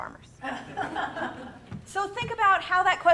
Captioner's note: audience laughs